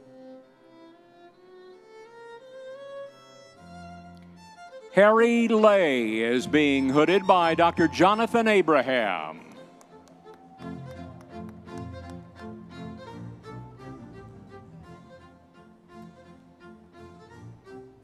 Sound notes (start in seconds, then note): 10.0 audience members cheering; 13.0 classical orchestral music continues